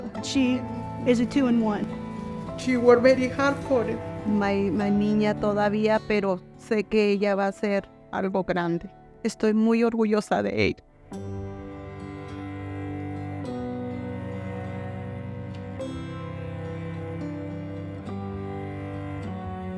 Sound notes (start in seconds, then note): 4.7 speaking in Spanish; 12.1 soft music continues